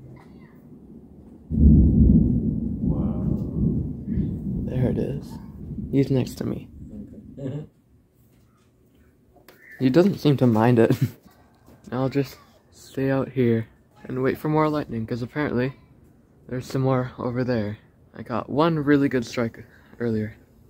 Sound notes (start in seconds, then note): 0.4 louder deep thunder; 10.9 laughs